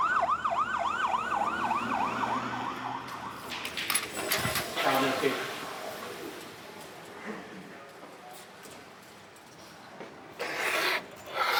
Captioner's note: sirens blaring